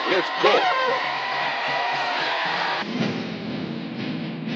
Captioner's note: townsfolk cheering; adventurous music